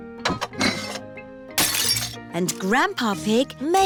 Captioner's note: shattering